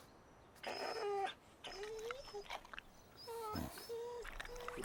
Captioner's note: Buck whining